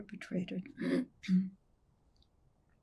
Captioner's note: clears throat